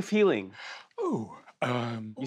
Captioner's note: quietly, happily